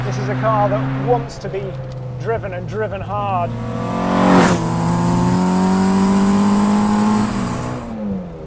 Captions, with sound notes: This is a car that wants to be driven and driven hard. (car engine roaring)